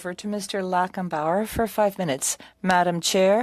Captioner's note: speaking French